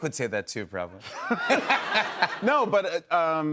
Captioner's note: laughter